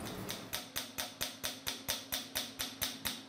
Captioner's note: hammering